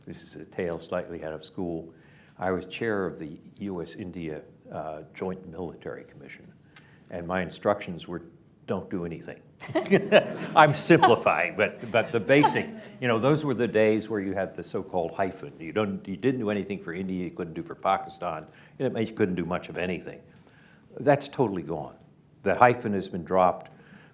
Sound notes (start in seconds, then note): 9.6 laughter, laughs